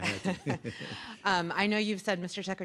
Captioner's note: laughter